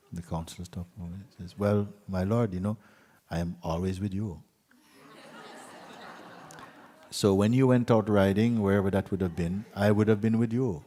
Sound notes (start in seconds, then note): 4.8 laughter